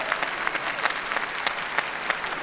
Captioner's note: cheering